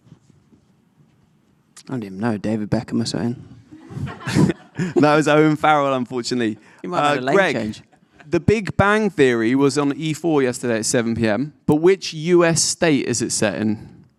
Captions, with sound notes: - I don't even know, David Beckham or something. (audience laughing) - That was Owen Farrell, unfortunately. - You might have a leg change. - Greg, the Big Bang Theory was on E4 yesterday at 7pm, but which US state is it set in?